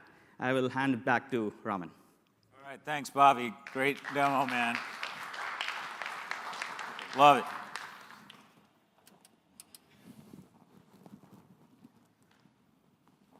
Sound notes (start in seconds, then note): 5.7 applause